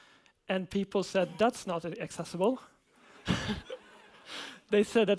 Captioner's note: laughs